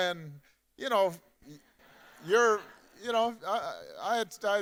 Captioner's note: audience laughing